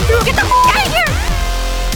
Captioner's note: beeping; upbeat music